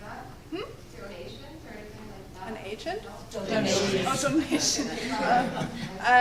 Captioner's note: laughs